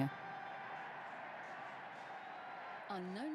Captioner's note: crowd cheering